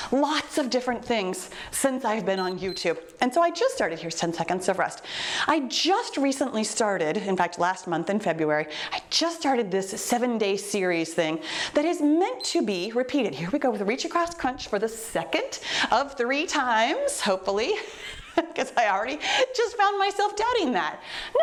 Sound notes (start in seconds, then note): 2.3 timer beeps; 12.4 timer beeps